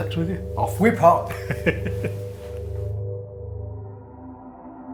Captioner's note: laughing